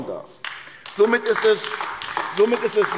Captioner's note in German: Beifall AfD